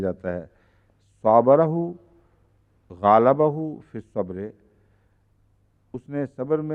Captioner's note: Arabic